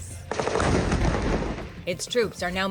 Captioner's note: tank shooting